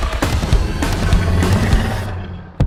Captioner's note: creature roars